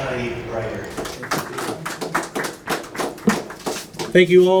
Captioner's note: applause